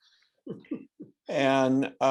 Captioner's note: laughs